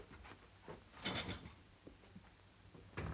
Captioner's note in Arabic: خشخشة الخزانة; يغلق الباب